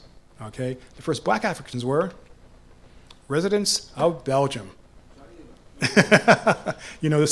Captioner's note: laughs